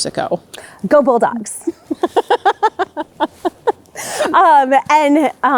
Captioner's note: both laughing